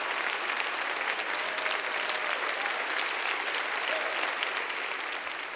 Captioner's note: audience continues to cheer